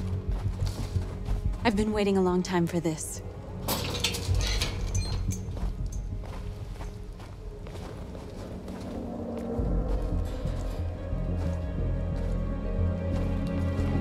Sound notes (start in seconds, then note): 3.6 fence rattling